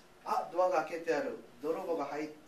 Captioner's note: speaking japanese